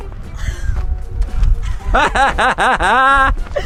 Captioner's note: laughter